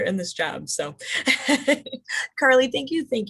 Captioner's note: laughs